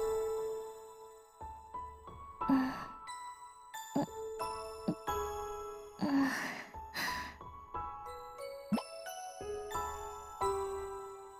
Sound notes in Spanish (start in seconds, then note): 2.2 gemido; 2.4 suspiro